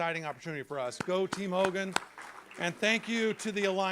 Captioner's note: applause